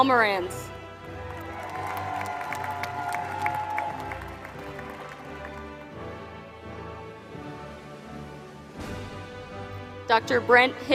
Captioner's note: applause